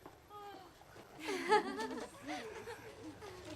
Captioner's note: girl chuckles